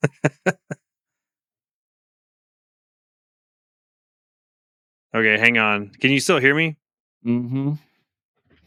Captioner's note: laughs